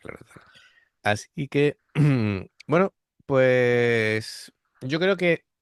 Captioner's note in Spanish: carraspeo